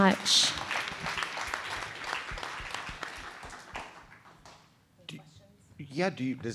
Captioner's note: applause